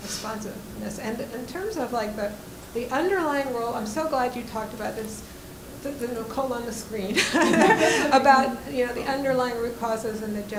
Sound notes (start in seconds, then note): 7.1 laughs